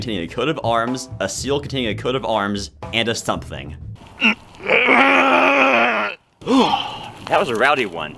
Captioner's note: pained grunt